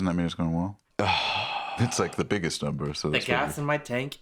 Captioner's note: sighs